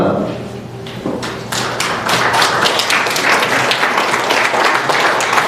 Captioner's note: applause